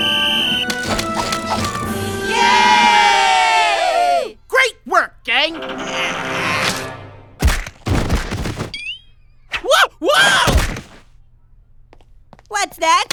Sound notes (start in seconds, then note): 4.7 straining sounds